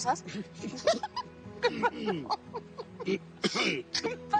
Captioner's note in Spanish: Risas; Carraspea